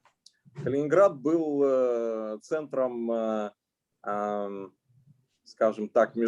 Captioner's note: speaking Russian language